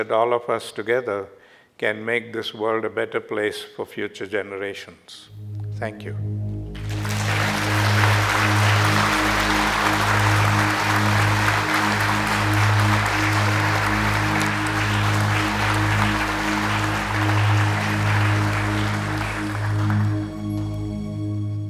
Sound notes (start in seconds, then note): 6.7 applause